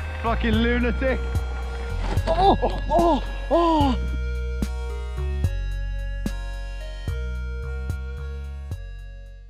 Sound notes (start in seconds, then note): 2.3 groaning; 4.6 gentle upbeat music